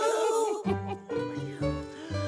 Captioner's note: sighing